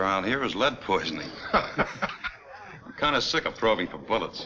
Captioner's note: Bill chuckles